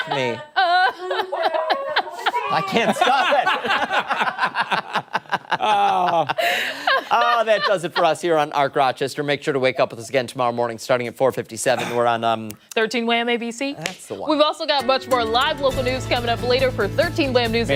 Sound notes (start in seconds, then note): 4.9 laughter